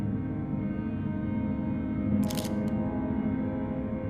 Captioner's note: camera clicks